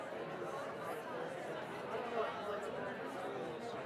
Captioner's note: audience chattering